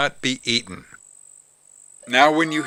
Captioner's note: siren